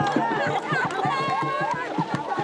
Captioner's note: cheers and laughter